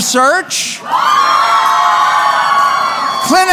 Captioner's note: cheering